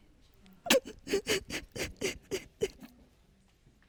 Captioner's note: sobbing